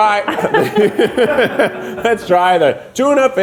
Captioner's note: laughing